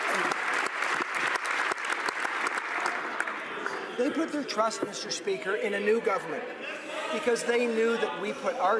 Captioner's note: applause